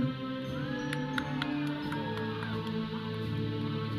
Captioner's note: audience cheering; processional music